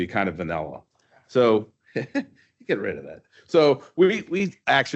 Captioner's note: chuckles